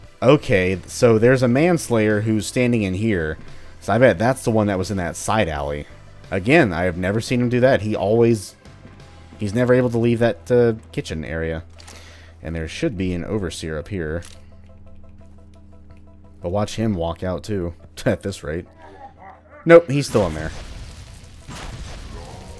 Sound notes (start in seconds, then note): 18.6 chuckles